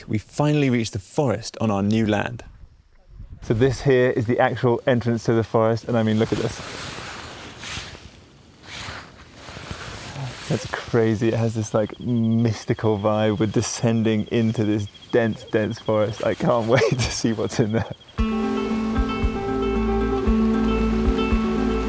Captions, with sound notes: we finally reach the forest on our new land. So this here is the actual entrance to the forest. And, I mean, look at this. (camera shuffling) That's crazy, it has this like mystical vibe. We're descending into this dense, dense forest. I can't wait to see what's in there. (gentle bright music)